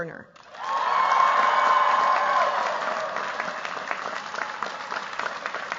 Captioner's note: cheers, applause